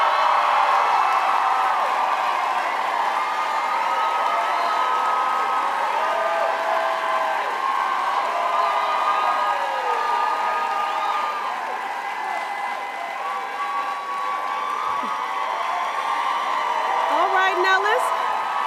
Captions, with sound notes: [CROWD CHEERS LOUDLY] [CROWD CHEERS LOUDLY] [CROWD CHEERS LOUDLY] ALRIGHT, NOW LISTEN